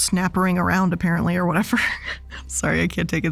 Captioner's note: chuckles